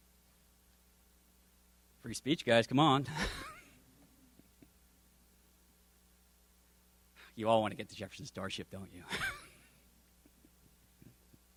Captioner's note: silence